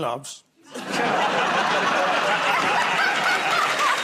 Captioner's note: laughter; applause